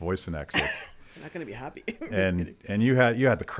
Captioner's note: chuckles